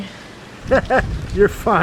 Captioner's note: laughing